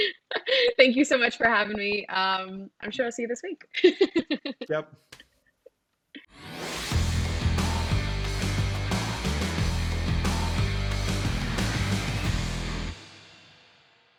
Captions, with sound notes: Thank you so much for having me. I'm sure I'll see you this week. (laughs) - Yep. (upbeat music)